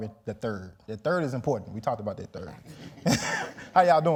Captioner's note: laughs